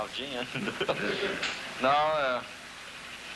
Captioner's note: laughter